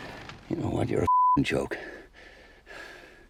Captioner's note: beeping